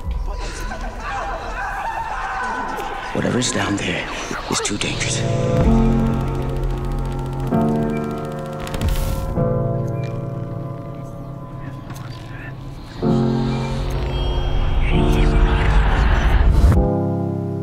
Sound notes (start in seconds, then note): 12.1 whispers; 16.7 music continues in the background